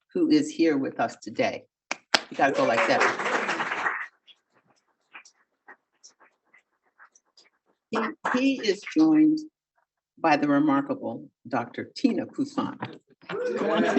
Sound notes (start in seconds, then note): 2.1 audience applauding; 13.7 audience applauding